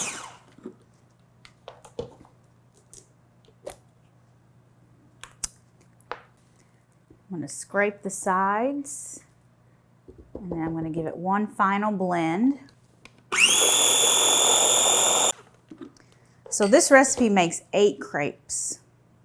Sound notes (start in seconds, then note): 13.3 blinder whirring